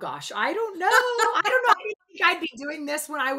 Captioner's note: laughs